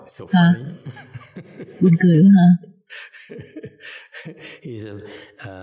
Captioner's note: laughter